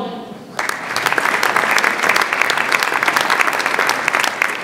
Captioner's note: audience applauds